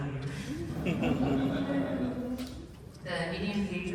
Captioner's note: laughter